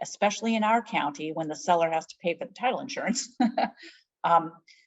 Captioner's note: laughs